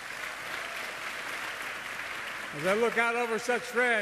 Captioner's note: applause